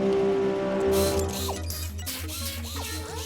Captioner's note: whirring